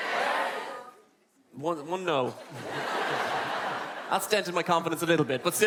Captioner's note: laughte